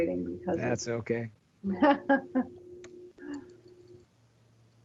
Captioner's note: laughing